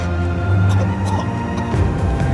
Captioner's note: coughing